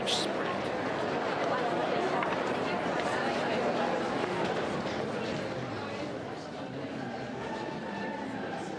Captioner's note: din of many people talking